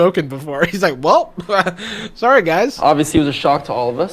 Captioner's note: laughs